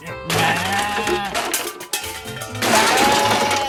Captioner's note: bleats